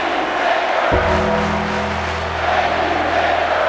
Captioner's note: audience clapping